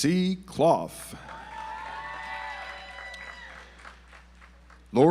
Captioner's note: audience applauds